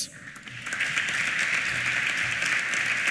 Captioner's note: applause